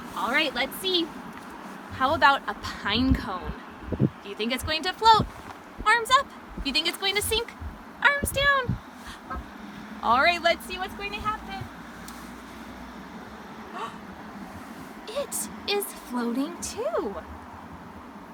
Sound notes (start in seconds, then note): 13.7 gasps